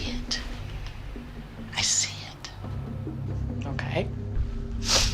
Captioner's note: sniffles